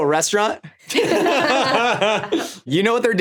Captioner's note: all laughing